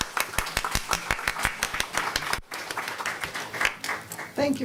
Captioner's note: applause